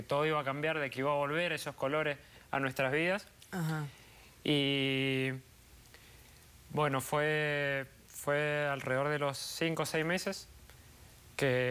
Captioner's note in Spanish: sollozos